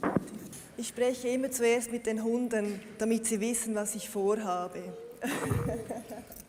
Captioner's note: laughs